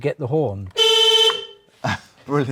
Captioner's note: beeps horn